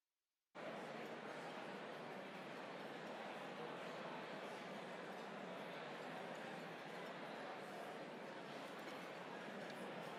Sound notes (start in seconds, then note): 1.1 chatter